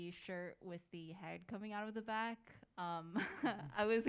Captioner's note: laughs